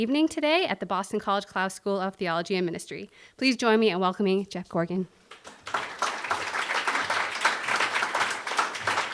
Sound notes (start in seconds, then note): 5.3 applause